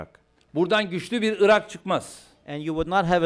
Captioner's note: non-english speech